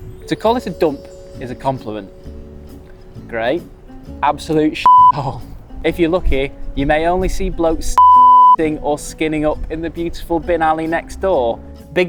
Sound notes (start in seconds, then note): 4.8 beep; 8.0 beep